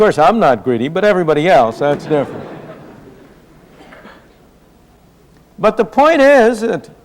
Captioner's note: laughter